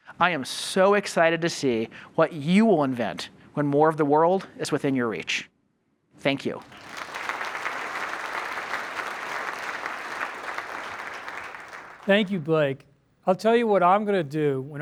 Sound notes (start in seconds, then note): 6.5 applause